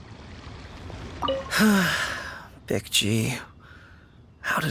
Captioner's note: sigh